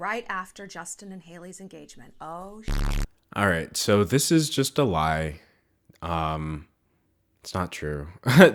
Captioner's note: beep